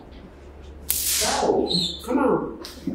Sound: taser buzzing

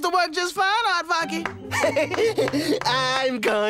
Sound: giggling

